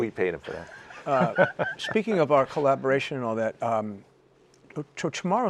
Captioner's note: laughter